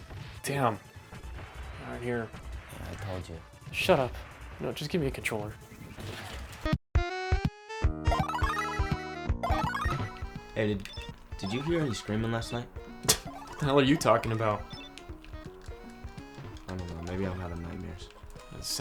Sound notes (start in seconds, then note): 6.7 bright music; 6.7 scores whirring; 13.7 scoffs